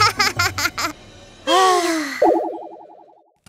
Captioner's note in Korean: 한숨